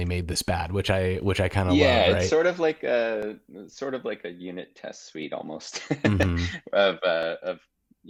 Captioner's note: laughing